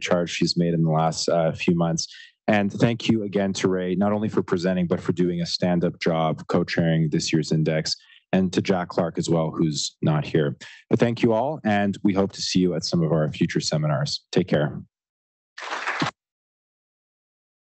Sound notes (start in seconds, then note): 15.6 applause